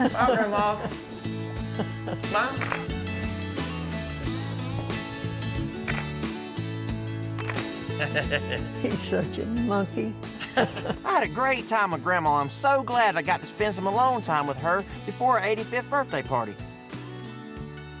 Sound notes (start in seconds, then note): 2.9 camera clicks; 5.8 camera clicking; 7.4 camera clicks; 7.9 chuckles